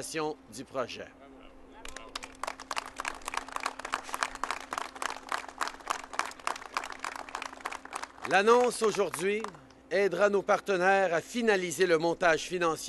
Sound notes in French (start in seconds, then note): 1.8 Applaudissements